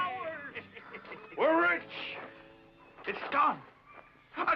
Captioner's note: mutineers cheer